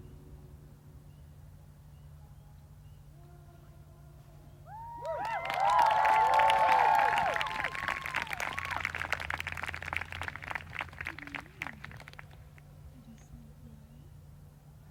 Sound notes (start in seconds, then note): 9.2 applause